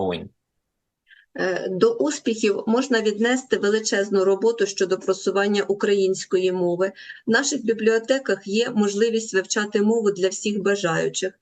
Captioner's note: foreign language